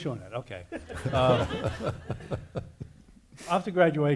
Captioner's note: audience laughing